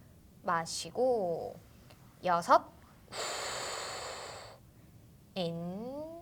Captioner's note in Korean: 콧방귀